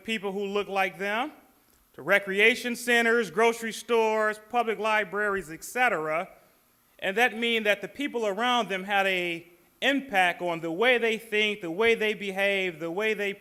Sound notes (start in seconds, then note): none